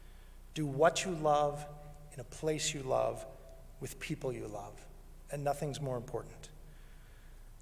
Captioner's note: none